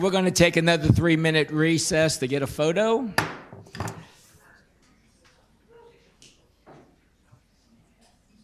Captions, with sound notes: - And we're gonna take another three-minute recess to get a photo. (gavel pounds) (faint voices chattering)